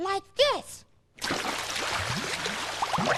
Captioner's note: splash